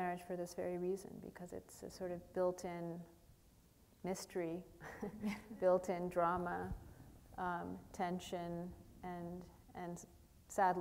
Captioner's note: chuckle